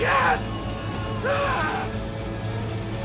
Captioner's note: Terry growls; dramatic music